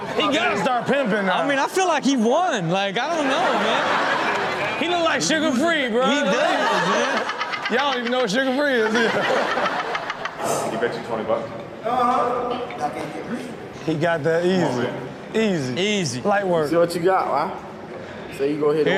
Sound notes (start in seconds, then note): 3.0 audience laughs; 9.7 everyone laughs